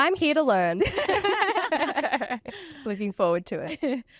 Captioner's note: all laugh